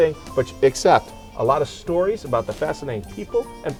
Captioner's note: laughing